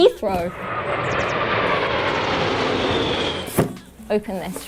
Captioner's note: airplane sound